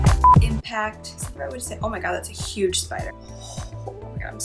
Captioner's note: beep